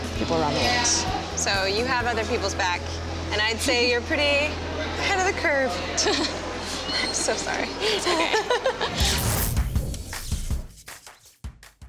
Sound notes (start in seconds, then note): 5.9 laughs; 9.1 upbeat music